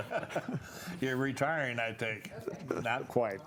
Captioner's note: panelists laugh